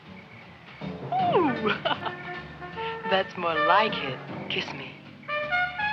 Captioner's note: laughs